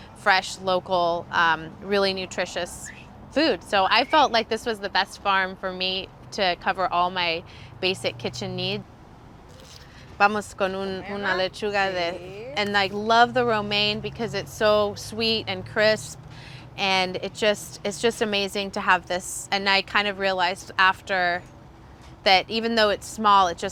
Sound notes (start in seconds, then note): 10.3 speaks in foreign language